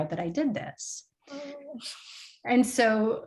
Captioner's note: comical whimpering